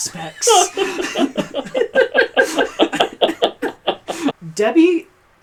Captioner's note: laugh